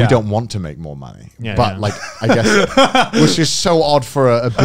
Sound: laughing

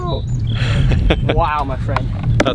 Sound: laughs

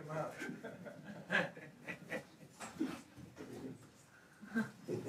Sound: audience laughs

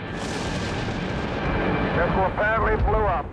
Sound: rocket exploding

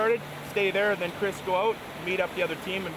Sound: voiceover

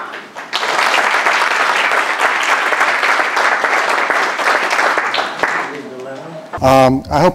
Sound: applause

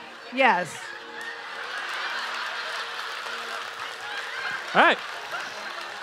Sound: audience laughing

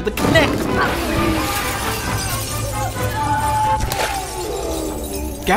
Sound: screaming

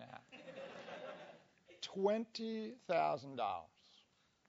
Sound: laugh

